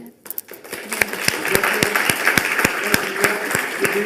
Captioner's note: audience clapping